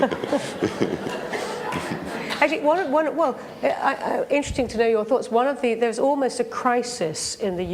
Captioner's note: laughs